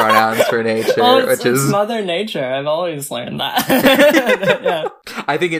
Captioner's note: laughs; both laugh